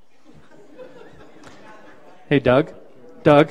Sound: participants laughing

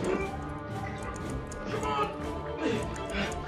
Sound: Ed grunting

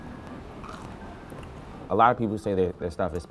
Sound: crunches loudly

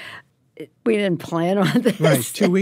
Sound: laughs

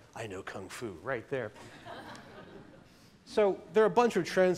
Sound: laughter

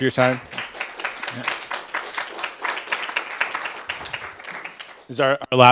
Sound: applause

